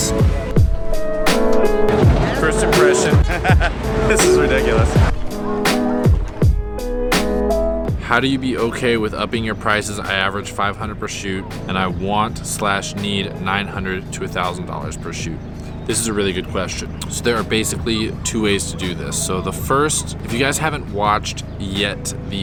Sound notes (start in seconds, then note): 0.2 lo-fi music; 2.0 laughing